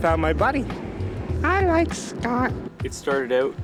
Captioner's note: high-pitched voice